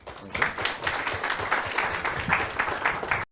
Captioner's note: audience clap